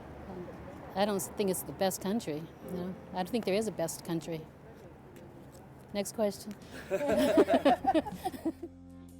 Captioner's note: laughing